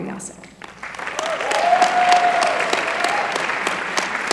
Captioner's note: applause